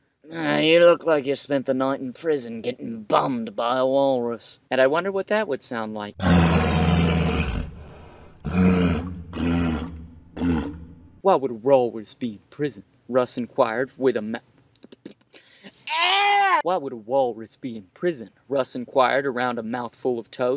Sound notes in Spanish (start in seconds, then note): 6.1 Sonidos naturales de morsa